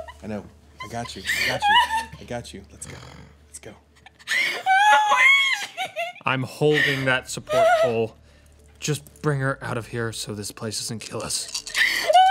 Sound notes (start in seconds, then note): 1.1 crying; 4.0 crying; 11.0 dice rolling; 11.7 crying